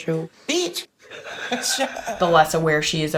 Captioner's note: laughing